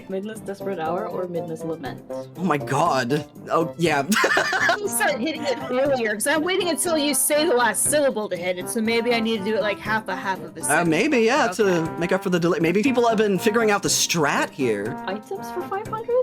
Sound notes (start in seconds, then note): 3.9 laughing